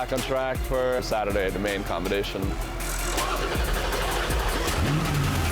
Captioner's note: engine rumbles